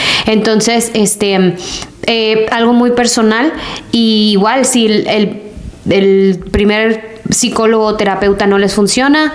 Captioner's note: sighs